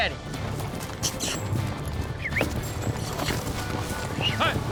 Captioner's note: makes squeaky sound, whistles